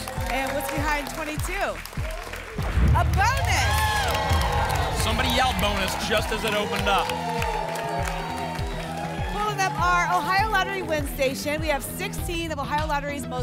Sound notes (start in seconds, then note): 2.6 boom; 7.4 applause and cheering